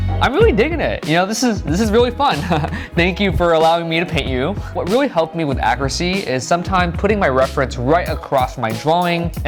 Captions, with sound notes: I'm really digging it, you know? This is, this is really fun. (chuckles) Thank you for allowing me to paint you. What really helped me with accuracy is sometime putting my reference right across my drawing,